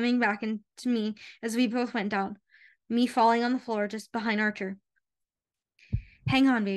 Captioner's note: heartbeats